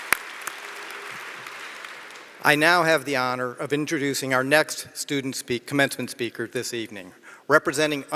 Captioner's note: applause